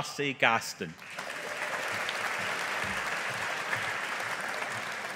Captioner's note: audience applauding